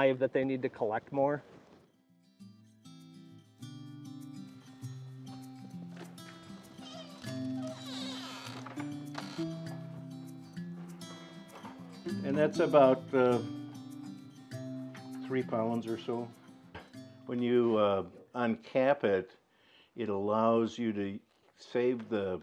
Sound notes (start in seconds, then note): 4.5 gentle music; 6.5 door creaks